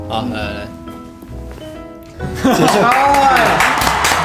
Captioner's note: clap clap